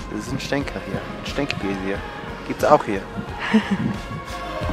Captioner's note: laughter